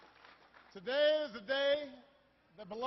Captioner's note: applause